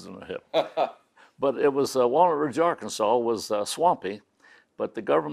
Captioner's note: laughs